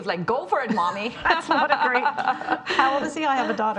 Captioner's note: laughing